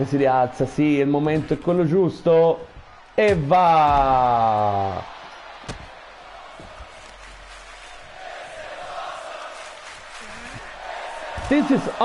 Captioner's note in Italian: Applauso